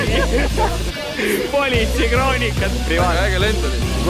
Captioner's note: laughing